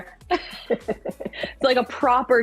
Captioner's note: chuckle